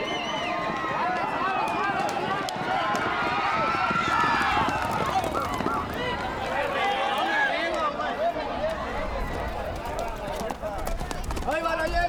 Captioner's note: cheering